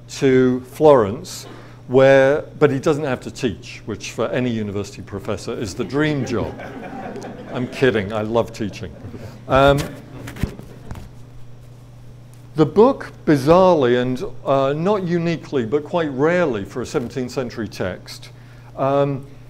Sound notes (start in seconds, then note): 5.6 audience laughs